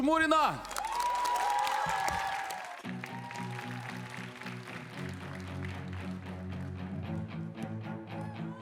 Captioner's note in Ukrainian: оплески